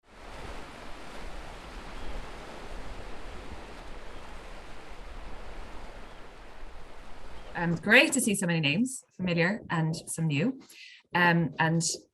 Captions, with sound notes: [sound of waves and oystercatcher calling] Great to see so many names familiar and some new, and